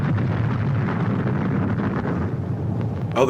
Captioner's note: boom